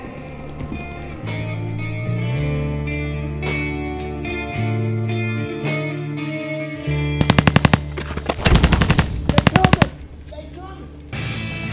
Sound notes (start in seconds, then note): 0.1 mellow Vietnam era instrumental music; 7.2 guns firing